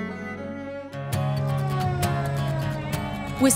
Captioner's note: siren